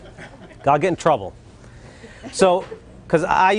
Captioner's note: laughter